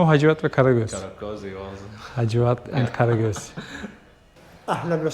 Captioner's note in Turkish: kahkaha